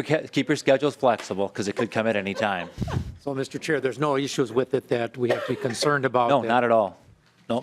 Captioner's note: laughing